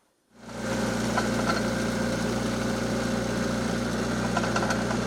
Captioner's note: forklift humming